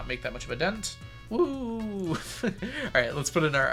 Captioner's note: laughs